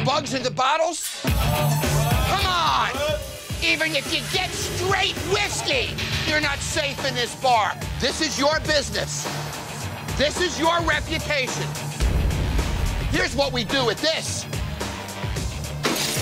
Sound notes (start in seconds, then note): 1.5 all shouting; 15.8 bottle shatters